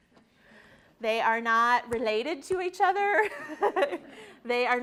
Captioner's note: laughs